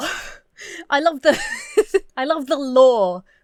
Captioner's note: chuckles; breaks into laughter